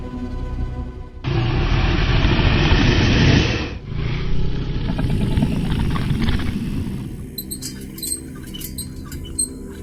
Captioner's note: dragon growling